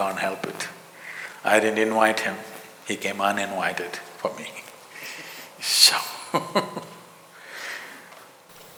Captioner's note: laughs